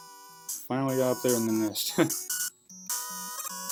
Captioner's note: chuckle